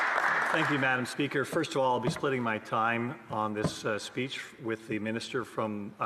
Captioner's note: some Applause